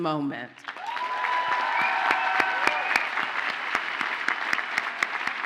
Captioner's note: audience cheers and applauds